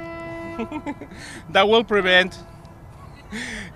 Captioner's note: air horn blows; chuckles; air horn blows